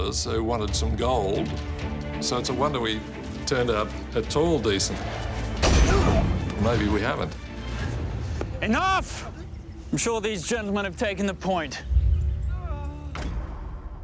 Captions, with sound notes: who wanted some gold. So it's a wonder we turned out at all decent. [men fighting] Or maybe we haven't? Enough! I'm sure these gentlemen have taken the point. [man crying]